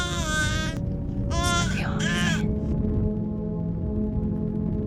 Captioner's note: Speaking in Drow language